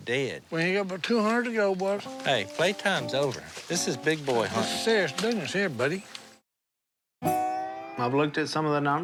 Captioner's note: none